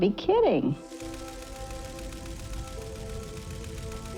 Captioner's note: typewriter sounds